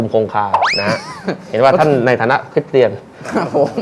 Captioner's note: laughing sound